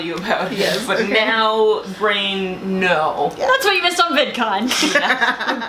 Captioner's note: laughter